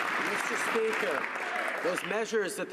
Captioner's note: some Applause